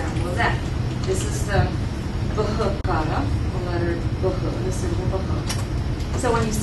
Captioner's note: non-english